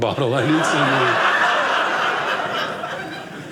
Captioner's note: audience laughing